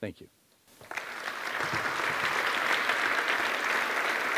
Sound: audience applauding

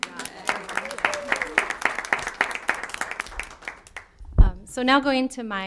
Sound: applause

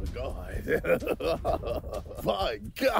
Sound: laughing

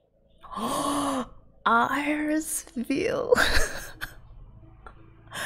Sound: gasps

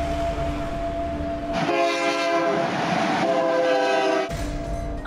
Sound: train horn blares

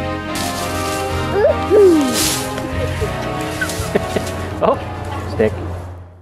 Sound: laughs

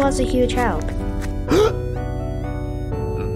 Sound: gasp

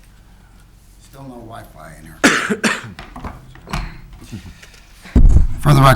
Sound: coughing

